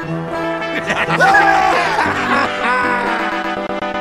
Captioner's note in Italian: ridono tutti